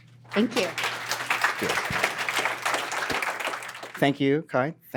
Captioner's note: applause